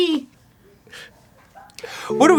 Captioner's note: american silence